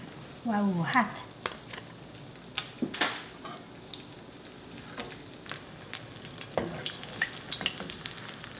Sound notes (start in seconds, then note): 5.8 sizzling